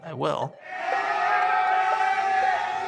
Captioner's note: inmates yelling